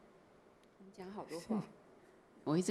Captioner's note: Mandarin; Mandarin